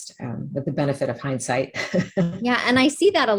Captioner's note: laughs